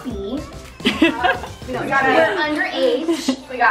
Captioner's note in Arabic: ضحك